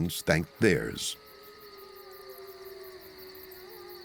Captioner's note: wolves howling in distance